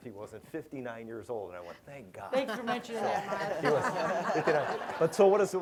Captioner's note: laughter